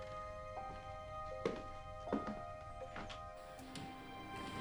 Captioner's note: footsteps departing